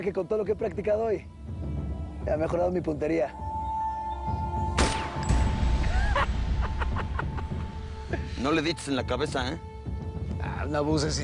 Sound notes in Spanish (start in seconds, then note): 4.7 Detonación de disparo; 5.9 Carcajadas